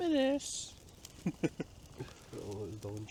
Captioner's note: laughs